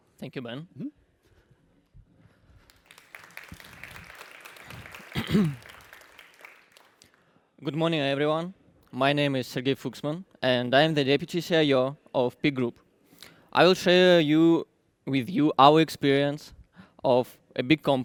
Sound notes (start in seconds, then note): 2.6 applause